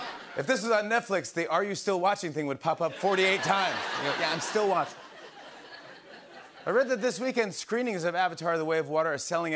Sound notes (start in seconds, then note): 2.8 laughter